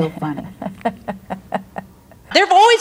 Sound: laughs

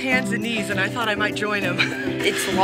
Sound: laughing

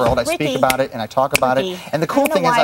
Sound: finger snap; finger snaps

